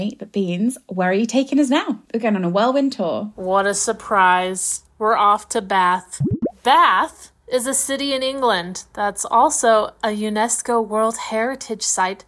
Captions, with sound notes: Beans, where are you taking us now? Again on a whirlwind tour. - What a surprise. We're off to Bath. (bubbles popping) Bath is a city in England that's also a UNESCO World Heritage site